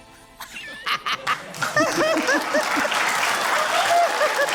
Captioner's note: laughs; laughter, applause